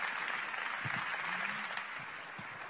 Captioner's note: applause